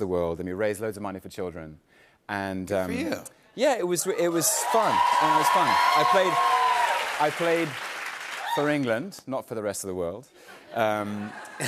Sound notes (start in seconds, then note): 4.1 cheers and applause; 10.6 light laughter